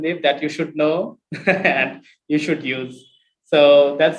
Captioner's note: laughs